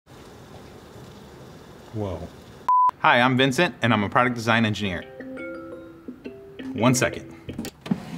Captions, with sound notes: - Whoa. Hi, I'm Vincent and I'm a product design engineer. [alarm chiming] One second.